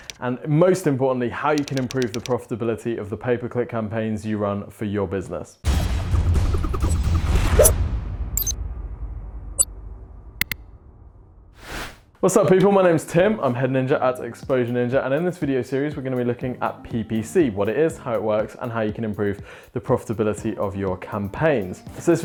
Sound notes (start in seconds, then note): 5.7 dramatic music; 6.4 ninja stars whooshing; 8.4 ninja beeping; 10.4 cursor clicks